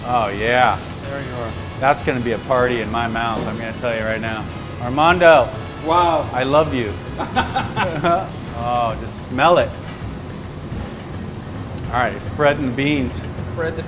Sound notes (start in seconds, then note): 6.5 laughing